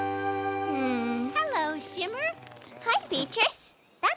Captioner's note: sighs